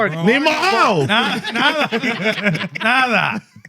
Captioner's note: laughing